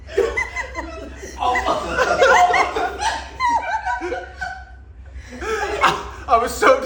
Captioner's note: everyone laughing at harsh words